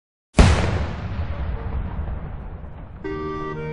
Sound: bang sound

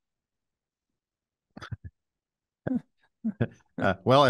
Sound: chuckling

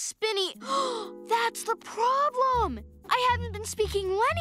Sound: gasps

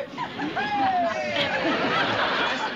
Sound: cheering; laughing

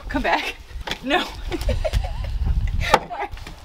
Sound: laughs

